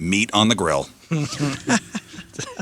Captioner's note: laughing